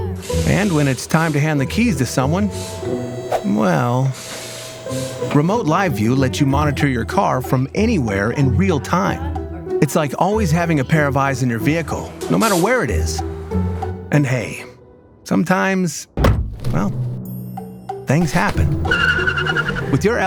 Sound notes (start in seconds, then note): 16.2 bumper hit sound; 18.2 tires screeching sound